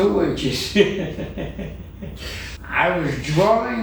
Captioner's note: laughter